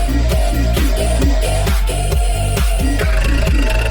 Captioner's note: Behemoth, beast, laughing